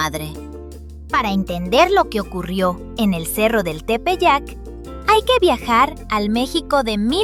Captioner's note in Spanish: Voz en off